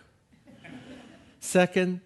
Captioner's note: audience laughing